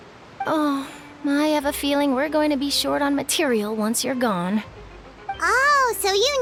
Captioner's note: sigh